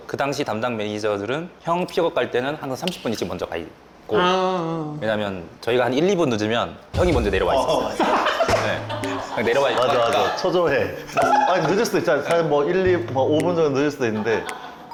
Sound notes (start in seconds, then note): 11.0 laughing hard